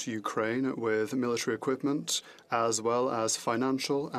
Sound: speaking French

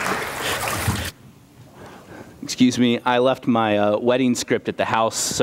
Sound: applause

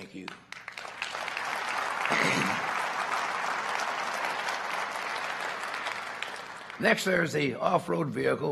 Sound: applause

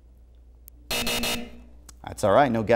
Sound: buzzer

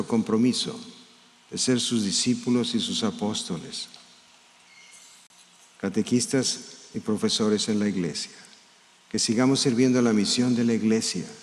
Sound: speaking in spanish

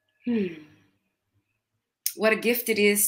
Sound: sighs

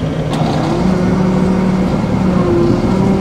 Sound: engine revving

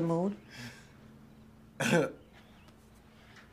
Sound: chuckles

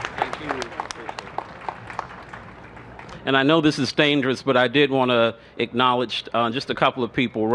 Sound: applause

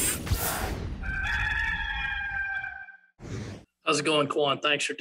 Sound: rooster crowing

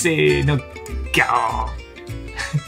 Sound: lion roar in Japanese

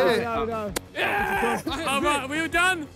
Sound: player cheers

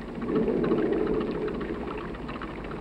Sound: thunder

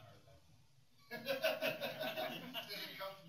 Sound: laughter

